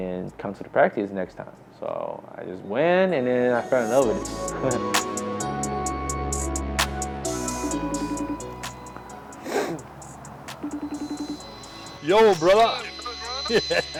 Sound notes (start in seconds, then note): 7.6 phone ringing; 13.4 chuckles